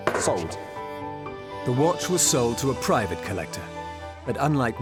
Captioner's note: taps object